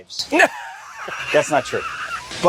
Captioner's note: laughs